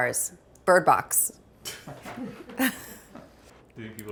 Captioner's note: chuckles